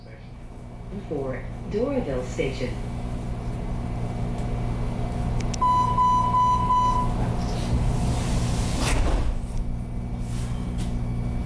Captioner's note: MARTA train sounds